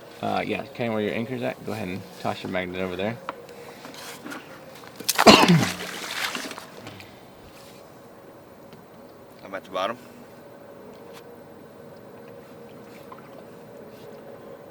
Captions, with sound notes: Ah, yeah, okay where your anchor's at, go ahead and toss your magnet over there. (coughing) (water splashing) - I'm at the bottom.